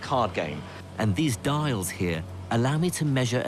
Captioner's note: voiceover